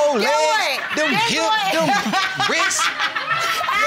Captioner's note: laughter